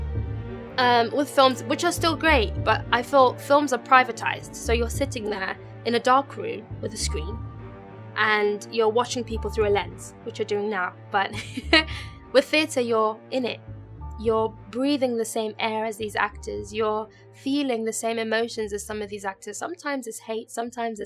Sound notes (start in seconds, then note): 11.4 laughs